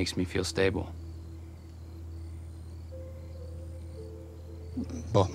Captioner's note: crickets chirping; tense music